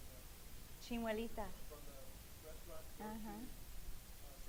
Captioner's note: speaking in foreign language